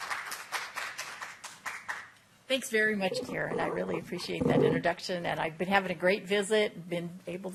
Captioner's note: applause